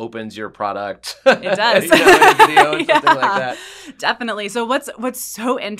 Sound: laugh

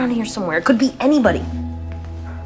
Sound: none

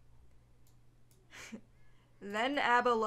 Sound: laughs

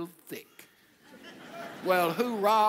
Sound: audience laughs

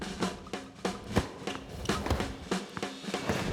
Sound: rackets smacking; ball bouncing

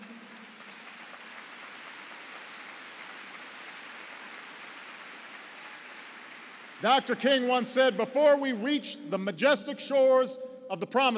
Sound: applause

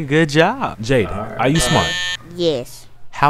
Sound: buzzer rings

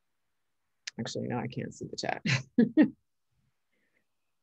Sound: laughs

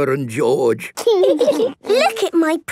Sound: laughing

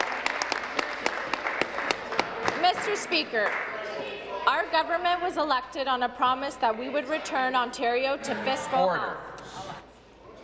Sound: applause

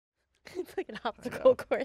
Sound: laughing

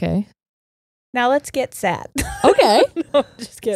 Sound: laughs

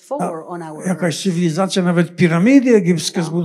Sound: foreign language

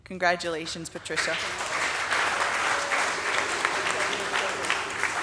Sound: audience applauding

